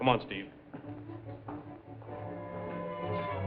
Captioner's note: footsteps; suspenseful music